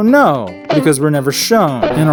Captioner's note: bonk!